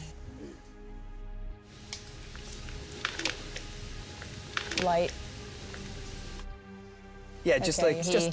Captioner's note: sighing